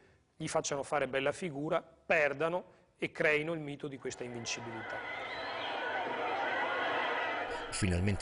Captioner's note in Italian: Applauso